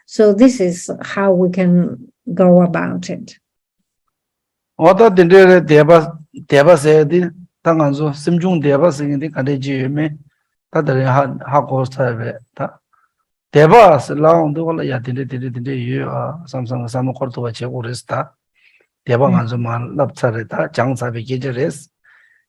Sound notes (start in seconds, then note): 5.3 speaking in foreign language